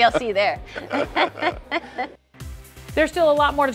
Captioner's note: Katie laughs; laughs